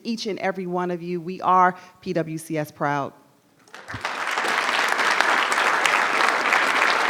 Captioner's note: audience applauds